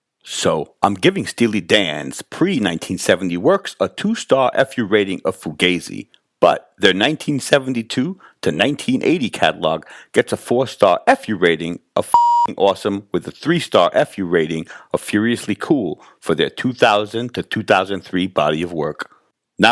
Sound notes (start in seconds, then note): 12.1 beep